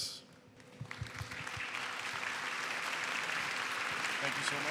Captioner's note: applause